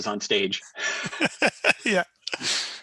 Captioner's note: laughter